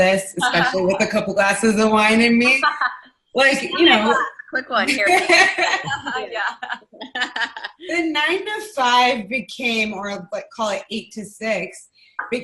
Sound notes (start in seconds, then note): 0.4 laughing; 3.6 laughing; 5.4 laughing